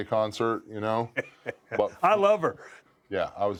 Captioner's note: laugh